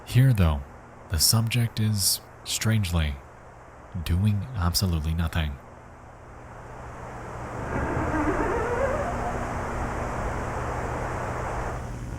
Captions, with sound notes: Here, though, the subject is, strangely, doing absolutely nothing. (door creaking)